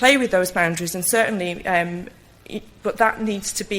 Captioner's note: stutters